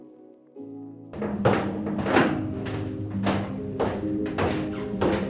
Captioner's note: sound of footsteps on stairs